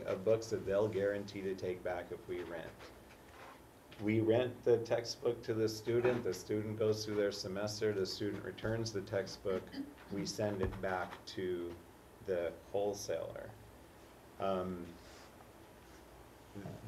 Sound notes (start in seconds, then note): 9.8 cough